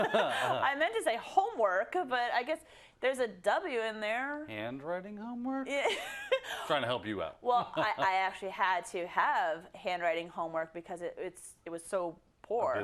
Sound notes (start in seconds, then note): 0.0 laugh; 7.5 laugh